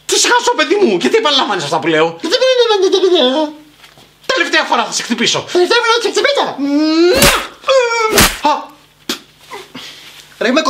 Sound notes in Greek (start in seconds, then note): 2.6 κοροϊδευτικά; 6.3 κοροϊδευτικά; 8.1 ήχος σφαλιάρας